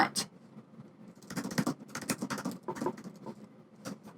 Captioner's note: typing